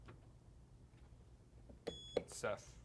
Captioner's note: beep